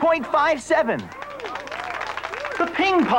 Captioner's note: applause